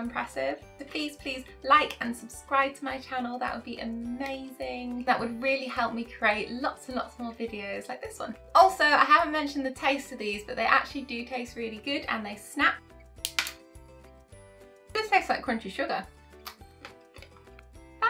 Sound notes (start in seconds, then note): 13.2 sugar snapping sound